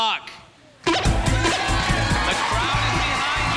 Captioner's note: beeping